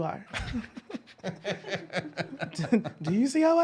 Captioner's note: laughs